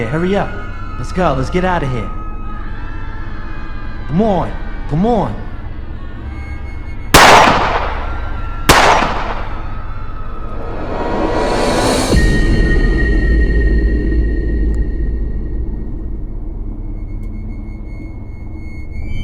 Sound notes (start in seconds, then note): 8.7 gun shoots; 12.5 dramatic music